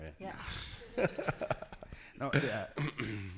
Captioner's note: laughing